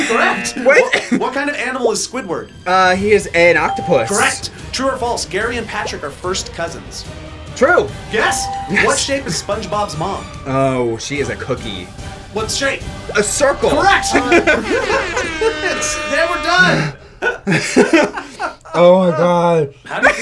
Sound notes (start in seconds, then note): 3.6 electronic bell chimes; 8.2 electronic bell chimes; 13.7 laughs; 13.7 electronic bell chimes; 14.7 air horn blasts; 17.7 laugh; 19.7 giggles